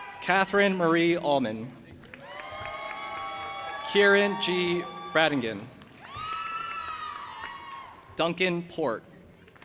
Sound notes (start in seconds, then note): 0.0 audience applauding and cheering; 2.0 audience applauding and cheering; 9.4 audience applauding